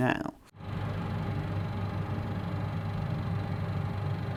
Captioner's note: projector hums